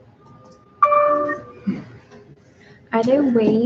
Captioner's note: computer dings